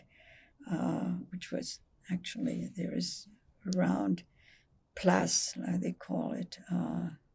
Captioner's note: french